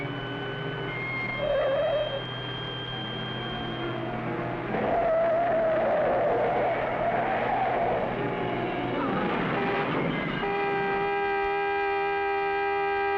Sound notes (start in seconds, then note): 0.3 tires squealing; 9.0 horn honking